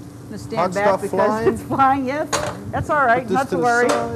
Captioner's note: laughs